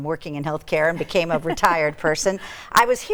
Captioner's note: chuckling